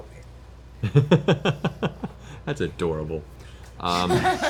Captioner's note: laughs; laughter